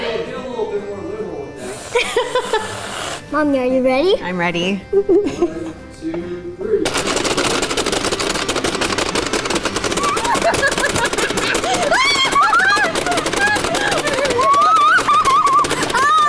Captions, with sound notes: (laughs) - Mommy, are you ready? - I'm ready. (game clicks) (laughing and screaming)